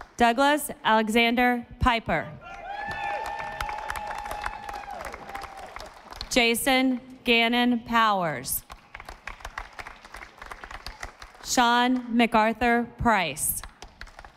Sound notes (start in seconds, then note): 2.6 audience applauding; 8.6 audience applauding; 13.7 audience applauding